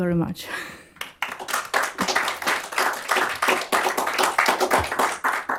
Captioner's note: applause